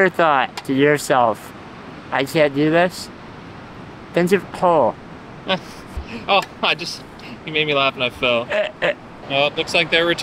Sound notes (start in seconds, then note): 5.4 laughs; 8.3 laughs